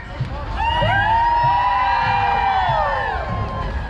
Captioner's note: cheering